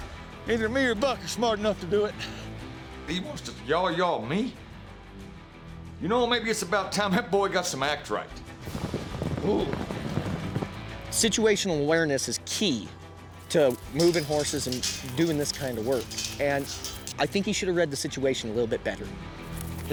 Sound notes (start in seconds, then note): 8.2 hoofbeats